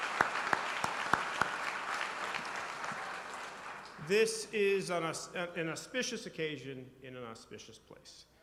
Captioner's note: applause